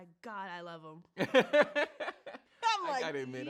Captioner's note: laughs